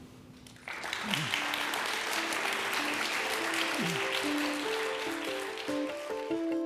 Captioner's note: audience claps; upbeat electronic music